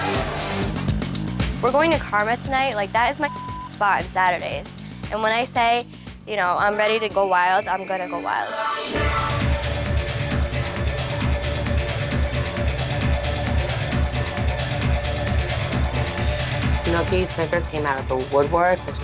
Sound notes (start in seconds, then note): 3.2 beep; 9.5 uptempo dance music